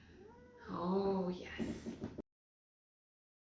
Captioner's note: meow